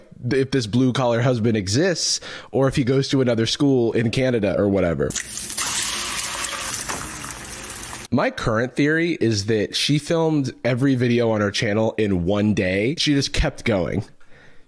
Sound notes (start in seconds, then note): none